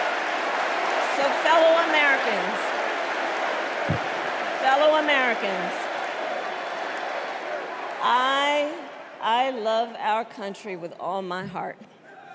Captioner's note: cheers and applause